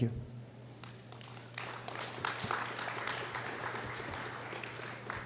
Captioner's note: applause